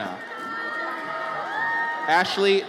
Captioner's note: audience cheers